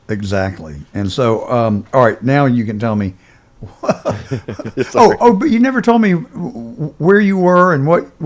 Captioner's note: laughs